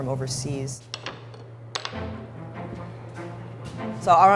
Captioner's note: utensils clatter